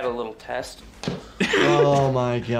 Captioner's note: pickax thuds